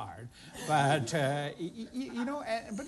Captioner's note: laughter